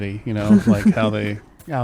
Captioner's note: laugh